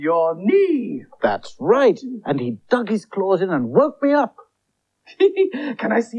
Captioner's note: Toby Laughs